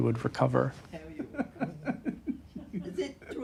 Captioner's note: laughs